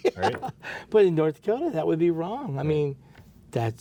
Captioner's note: laughs